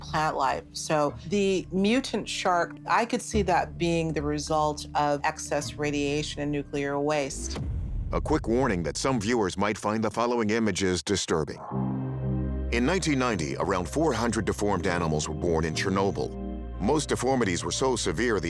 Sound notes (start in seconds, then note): none